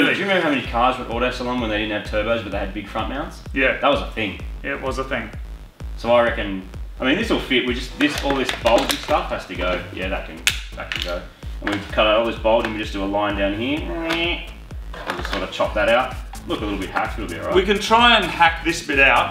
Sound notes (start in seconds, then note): 8.0 plastic clashes; 10.6 plastic clatters; 13.8 imitates Dremel